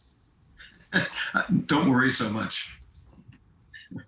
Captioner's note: chuckling